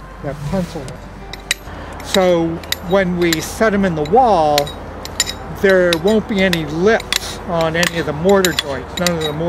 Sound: background music continues; clinking sound of hammer and straight edge on stone

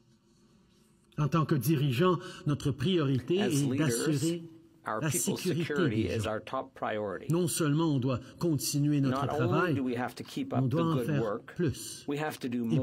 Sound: speaking French

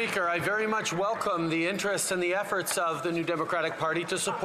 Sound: some Applause

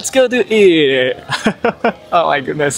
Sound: chuckles

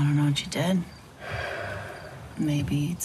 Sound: sighs

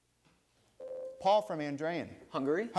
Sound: ding

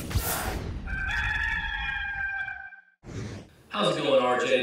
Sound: rooster crowing

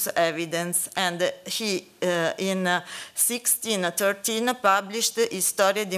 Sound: italian

